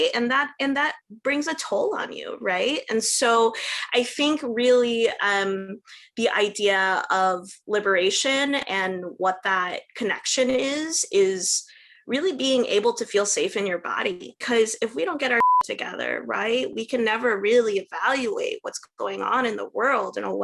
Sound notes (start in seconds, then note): 15.3 beep